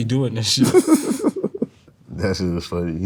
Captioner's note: laughs